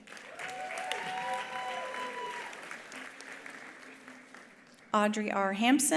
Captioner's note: attendees applauding; attendees cheering